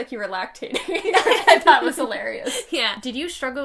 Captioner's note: laughing